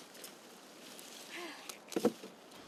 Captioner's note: exclaims